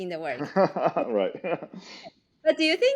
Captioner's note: laughs